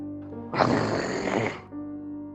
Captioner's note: roar